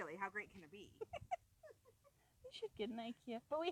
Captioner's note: laughing